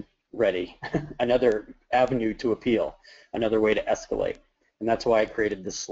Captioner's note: laughs